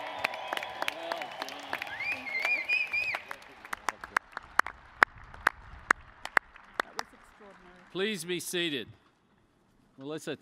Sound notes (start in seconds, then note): 0.1 applause; 6.6 cheers and applause